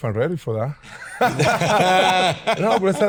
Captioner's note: all laughing